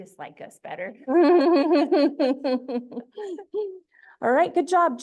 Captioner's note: laughter